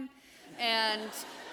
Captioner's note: laughter